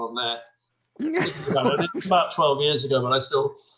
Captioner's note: laughing